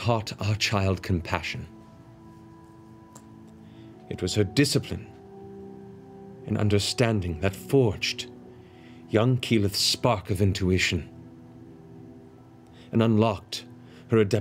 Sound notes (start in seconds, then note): none